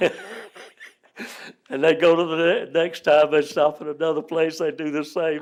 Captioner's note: laughs